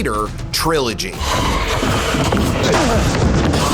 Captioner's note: growling; grunts